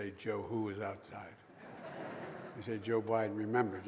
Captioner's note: laughter